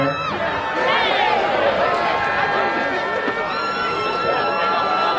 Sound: audience cheering

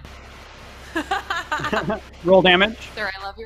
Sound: laughing

